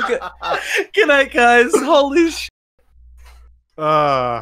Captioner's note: laughs